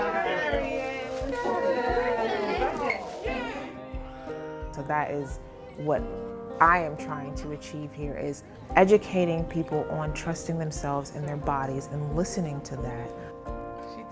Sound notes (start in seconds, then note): 0.0 women cheering; 3.2 baby crying